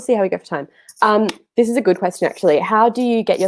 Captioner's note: clapping hands